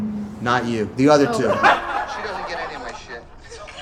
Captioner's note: laughing